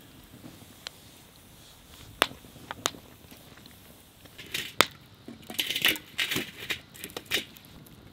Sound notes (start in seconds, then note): 5.4 tool clanking